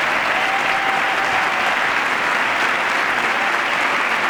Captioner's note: applause